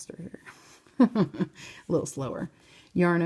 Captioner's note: chuckles